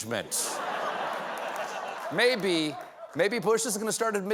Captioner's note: laughter